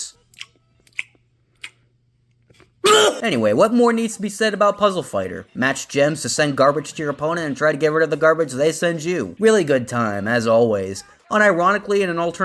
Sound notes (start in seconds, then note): 0.9 smacking; 2.8 loud retch